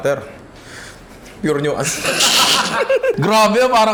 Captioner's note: laughter